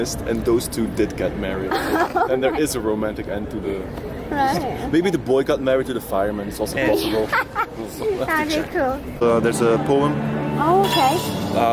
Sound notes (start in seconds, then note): 6.8 laughing; 6.8 giggling